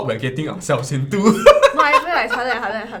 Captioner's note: laughs